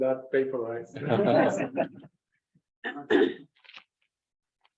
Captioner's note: members laugh